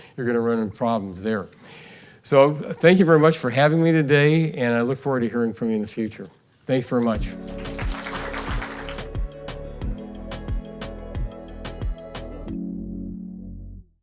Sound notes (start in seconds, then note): 7.1 soft upbeat music; 7.1 audience clapping